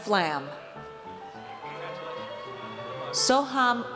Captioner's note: audience cheers